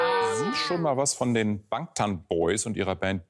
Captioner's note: soundbite of archived recording